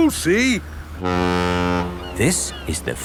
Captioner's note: laughing; ferry horn blows